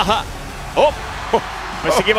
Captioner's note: laugh